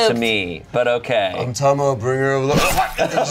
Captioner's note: grunts